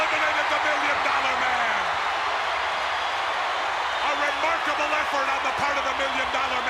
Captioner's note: applause